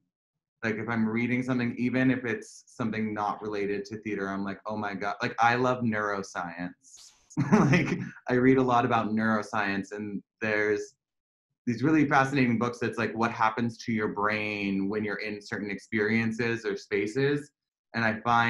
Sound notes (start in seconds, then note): 7.4 laughter